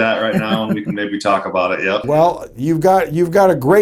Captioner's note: chuckles